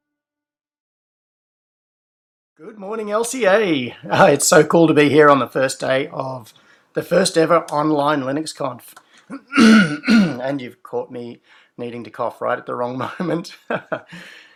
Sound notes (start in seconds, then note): 9.3 coughs; 14.0 laughs